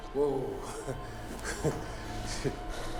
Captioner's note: laughs